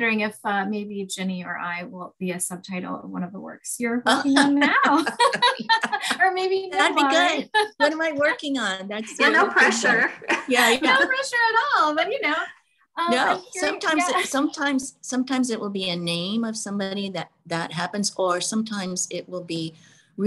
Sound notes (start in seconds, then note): 4.4 laughing